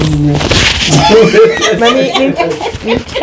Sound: laughing

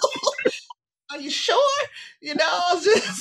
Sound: laughing

